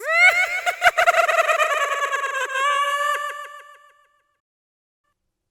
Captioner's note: Mischievous purple cackling